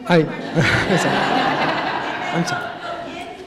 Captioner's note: laughter